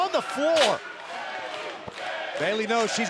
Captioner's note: crowd cheering